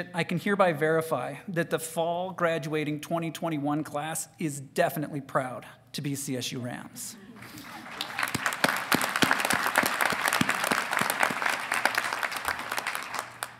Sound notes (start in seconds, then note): 7.4 audience titters; 7.4 audience applauding